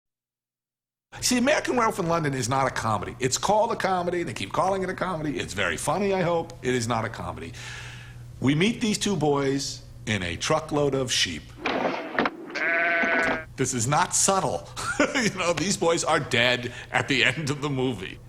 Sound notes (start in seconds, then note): 12.5 bleating